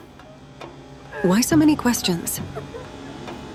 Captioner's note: patients laughter in background